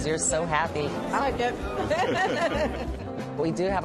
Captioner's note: laughs